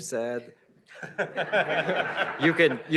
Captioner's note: laughter